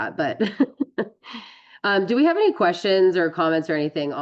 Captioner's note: laughs